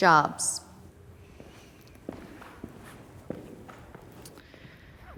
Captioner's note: feet clomping